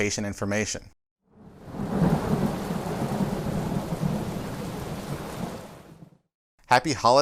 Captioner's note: thunder